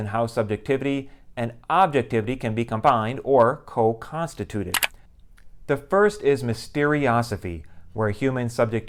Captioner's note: mouse click